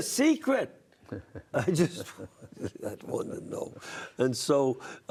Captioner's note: chuckling